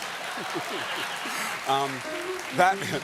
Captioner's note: applause; piano riff